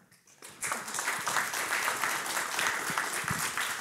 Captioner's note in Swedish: Applåder